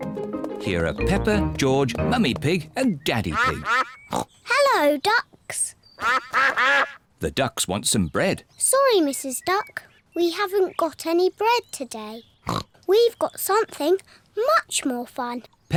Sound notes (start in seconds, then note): 4.0 snorts; 5.9 ducks quack; 12.4 snorts